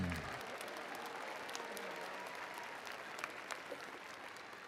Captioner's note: attendees applauding